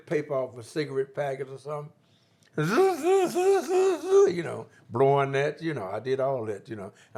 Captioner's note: imitates sound